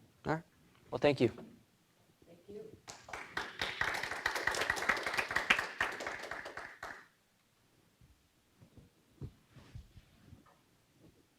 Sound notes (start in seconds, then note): 2.8 audience applauds